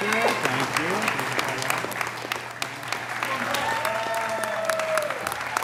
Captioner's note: audience cheers and applauds